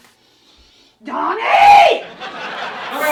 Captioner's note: yelling; audience laughing